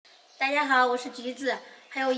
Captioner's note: Mandarin